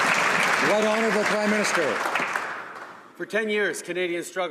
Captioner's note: applause